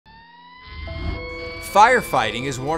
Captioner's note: emergency sirens wail